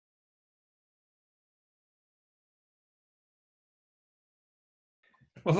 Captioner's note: silence